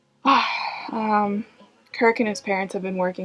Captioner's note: sighs